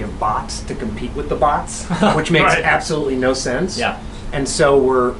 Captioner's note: laughter